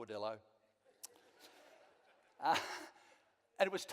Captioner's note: slight laughter from audience